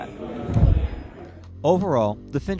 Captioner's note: flutter